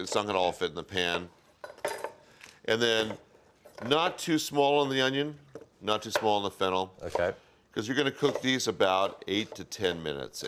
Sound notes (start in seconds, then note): none